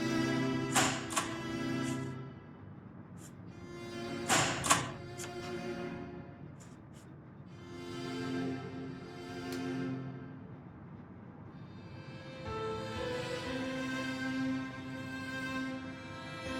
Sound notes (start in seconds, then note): 0.6 time clock punching